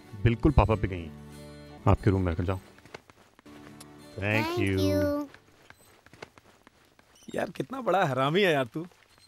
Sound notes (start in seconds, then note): 3.9 kisses